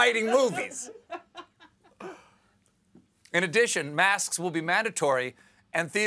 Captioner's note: laughter